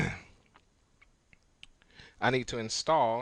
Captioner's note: clears throat